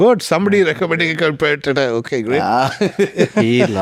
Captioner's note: laughs